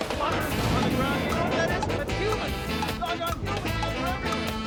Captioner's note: <i> CLOCK TICKING</i>